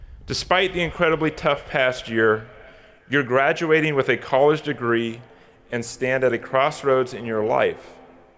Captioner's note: none